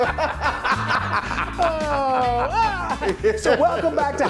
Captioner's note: laugh